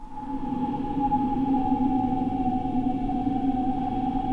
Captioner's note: gentle wind whooshing